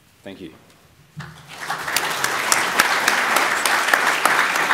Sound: applause

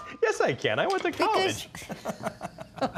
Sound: they laugh

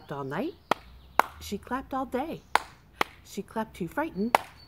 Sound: clap clap; clap clap

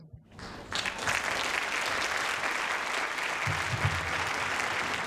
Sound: audience applauds

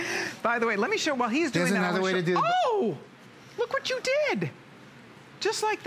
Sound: laughter

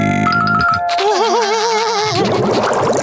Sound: laughing

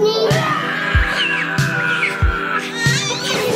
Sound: screaming

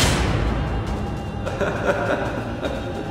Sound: laughter

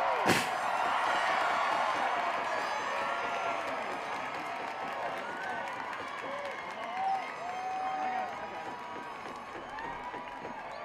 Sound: cheering, Blowhorns

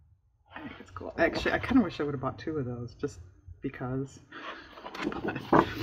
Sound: laughs

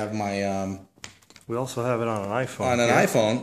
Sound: voiceover

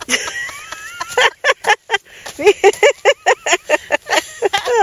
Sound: laughter

